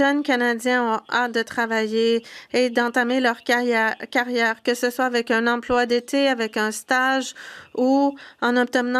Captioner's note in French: voix de l'interprète